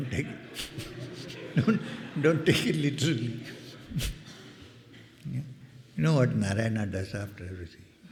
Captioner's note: laughter